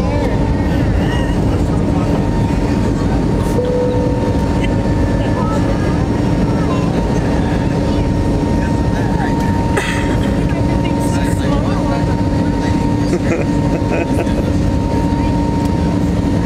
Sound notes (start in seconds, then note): 0.7 laughing; 3.6 bell chimes; 13.0 laughing